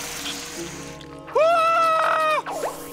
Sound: screaming

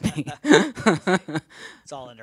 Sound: laughter

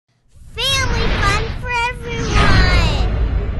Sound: child's Voice

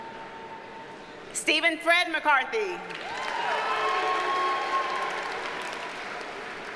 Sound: audience cheers and applauds

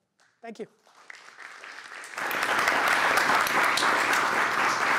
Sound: applause

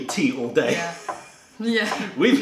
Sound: laughter

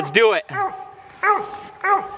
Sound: dogs barking

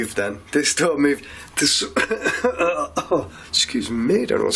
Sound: coughing

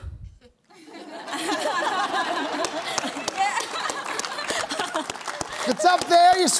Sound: laughter

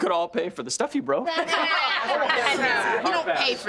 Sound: laughing

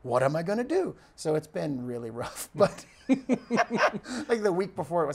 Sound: laughs

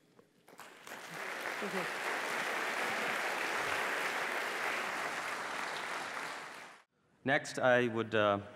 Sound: applause

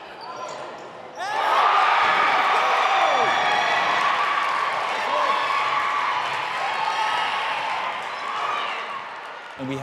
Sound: crowd cheering loudly

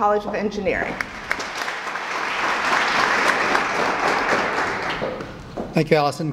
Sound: applause

